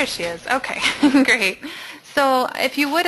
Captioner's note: voiceover